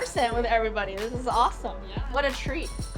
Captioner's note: ghostly Voice